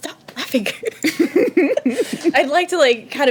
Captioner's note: laughing